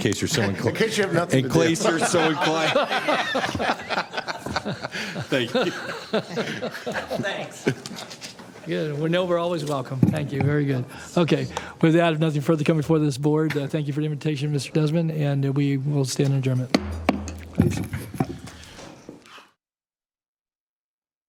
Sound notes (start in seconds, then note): 7.9 laughter